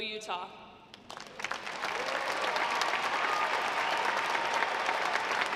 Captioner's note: audience applauding